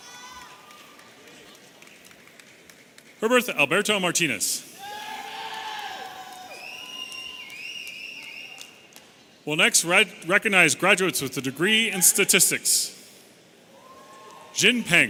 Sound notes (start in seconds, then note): 0.0 audience cheering; 4.7 audience cheering and whistling